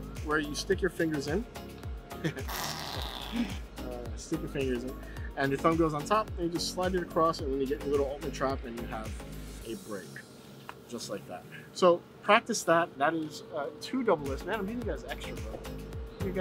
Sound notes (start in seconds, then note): 2.2 chuckles; 2.4 farting noise